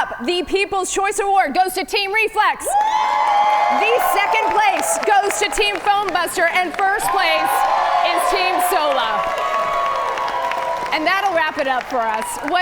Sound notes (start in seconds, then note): 2.8 audience cheer; 7.3 audience cheer; 9.7 audience cheer